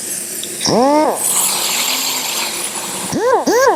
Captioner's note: sander hums